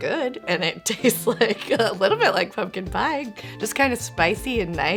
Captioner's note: giggles